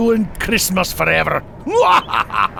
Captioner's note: Arvid laughing